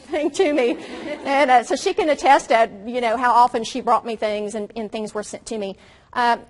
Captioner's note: audience laughs